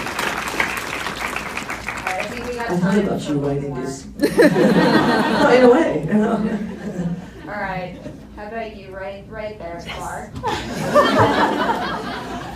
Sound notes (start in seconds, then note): 0.0 warm applause; 4.2 laughs; 10.4 laughs